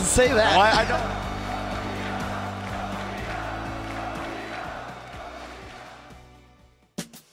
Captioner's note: Crowd chants "Tokido"